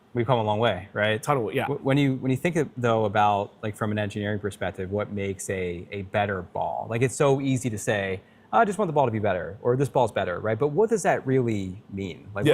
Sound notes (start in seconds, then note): none